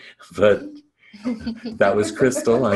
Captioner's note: giggling